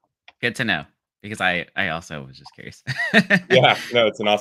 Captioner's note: laughs